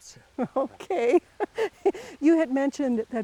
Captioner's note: laughing